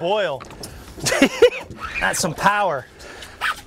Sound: giggling

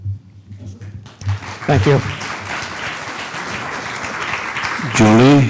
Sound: applause

